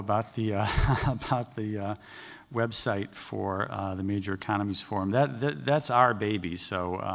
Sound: laughter

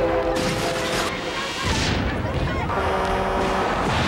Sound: people screaming

